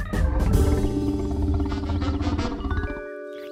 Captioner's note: tummy grumbling